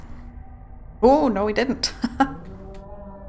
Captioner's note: laughs